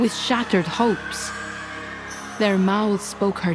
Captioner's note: Amazons shrieking